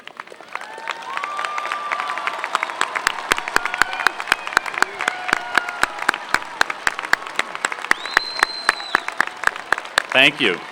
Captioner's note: applause